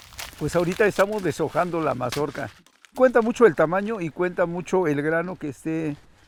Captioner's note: speaking in foreign language